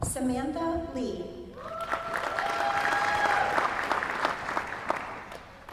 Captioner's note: applause